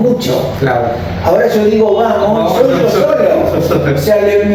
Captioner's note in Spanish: risas